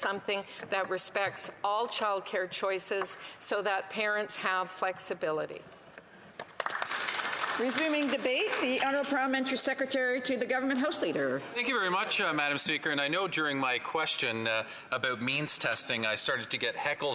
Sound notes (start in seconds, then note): 9.9 applause